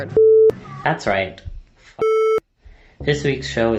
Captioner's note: beep; beep